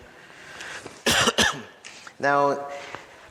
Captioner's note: coughs